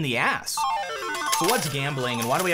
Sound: slot machine noises

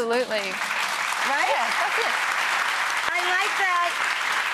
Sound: crowd applauds

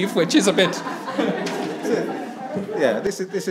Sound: attendees laughs

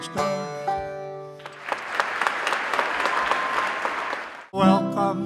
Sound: applause and cheering

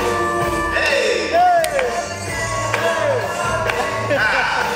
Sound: exclaiming

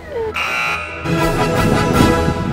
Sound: both laugh; buzzer

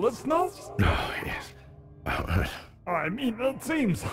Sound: snorts

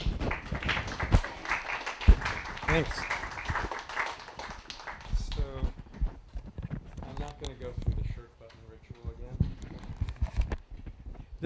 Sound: applause

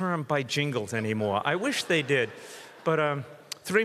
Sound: audience laughs

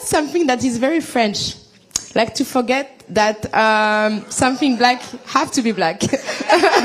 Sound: laughter

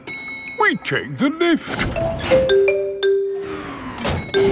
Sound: elevator dings

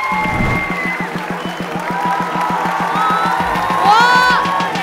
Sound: applause

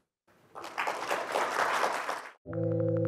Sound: applause

